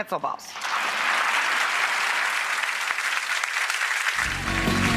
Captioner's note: audience claps